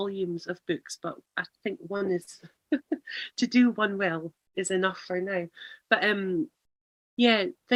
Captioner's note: laughs